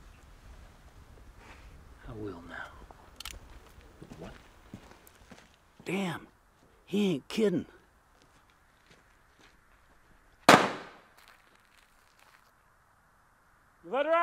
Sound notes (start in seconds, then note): 3.1 gun clicking; 8.4 gunshot popping